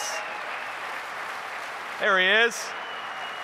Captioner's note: applause